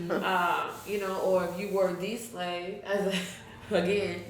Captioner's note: chuckles